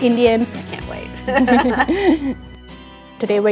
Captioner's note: chuckles